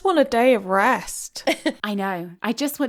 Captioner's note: laughing